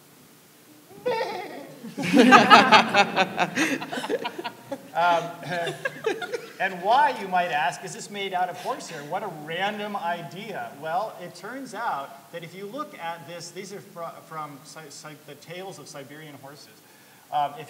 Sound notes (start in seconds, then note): 0.9 laughing; 1.1 neighs like a horse